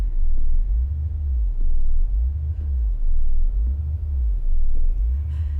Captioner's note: computers pulsing ominously